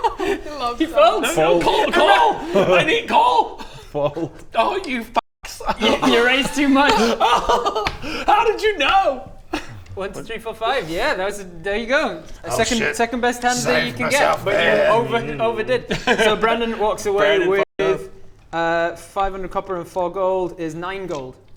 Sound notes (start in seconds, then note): 7.2 cries